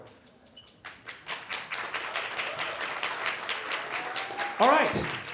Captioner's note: applause